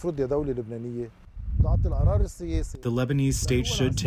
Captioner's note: through translator